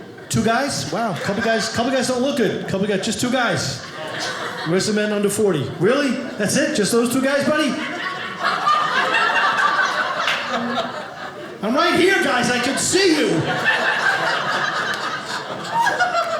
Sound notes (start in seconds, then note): 8.2 audience laughing; 13.5 audience laughing